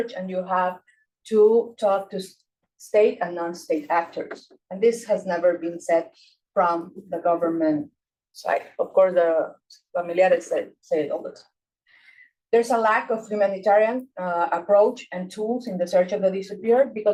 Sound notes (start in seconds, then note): 9.6 speaking Spanish